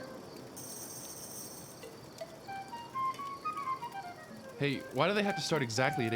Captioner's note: none